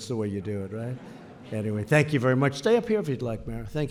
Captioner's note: laughter